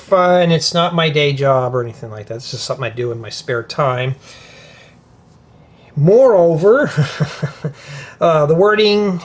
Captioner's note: laughter